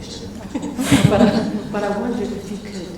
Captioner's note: laughs